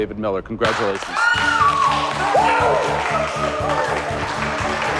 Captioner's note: cheers and applause